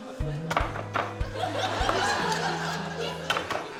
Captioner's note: knife bangs